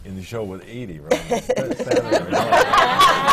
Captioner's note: laughter